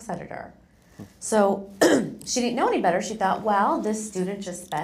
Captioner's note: cough